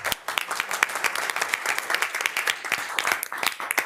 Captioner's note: all applauding